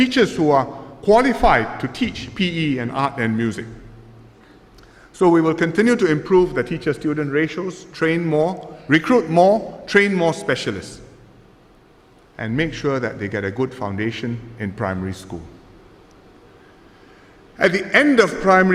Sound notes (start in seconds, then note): none